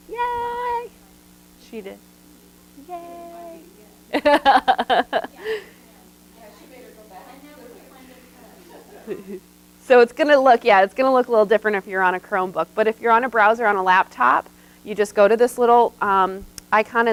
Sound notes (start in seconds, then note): 4.1 laughs